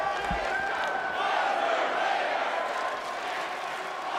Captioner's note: audience chants